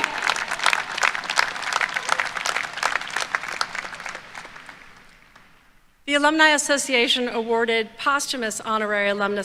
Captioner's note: applause